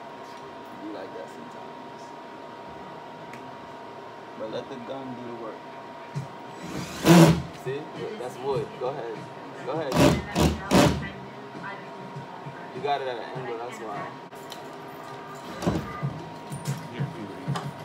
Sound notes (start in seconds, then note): 6.5 drill noise; 9.9 drill noises